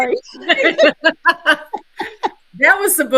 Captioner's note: all laughing